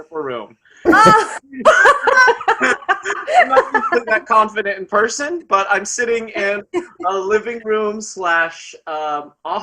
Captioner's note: laughs